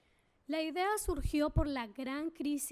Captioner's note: speaking spanish